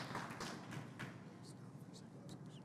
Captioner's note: whispering